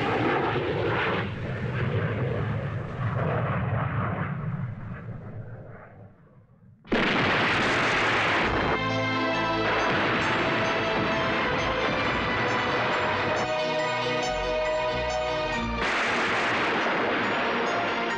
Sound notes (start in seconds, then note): 6.8 explosion